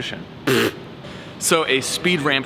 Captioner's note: blows raspberries